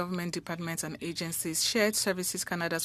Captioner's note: speaking French